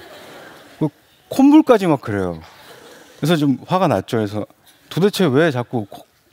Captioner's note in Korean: 웃음; 웃음